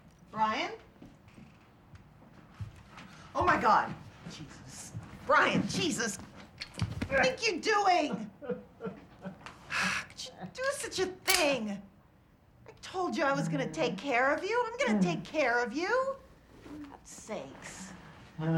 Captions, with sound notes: Brian? Oh, my god! Jesus. Brian! Jesus! What do you think you're doing? [Sobbing] How could you do such a thing? I told you I was gonna take care of you. I'm gonna take care of you. For god sakes.